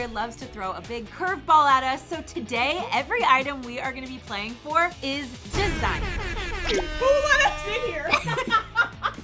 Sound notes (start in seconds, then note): 5.7 air horn blaring; 8.2 all laughing